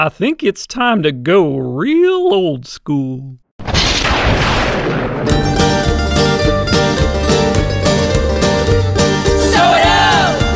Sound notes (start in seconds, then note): 3.6 thunderous explosion; 5.2 country band music